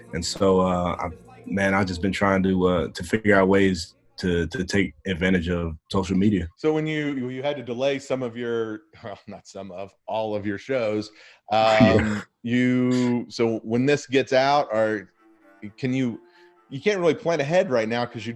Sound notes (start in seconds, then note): 11.6 chuckles